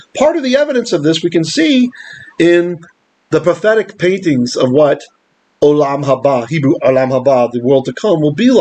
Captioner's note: Hebrew